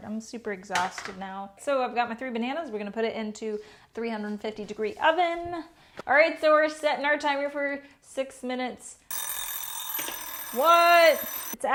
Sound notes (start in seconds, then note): 9.1 alarm ringing